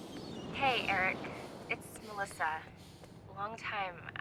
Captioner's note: phone beeps; voicemail plays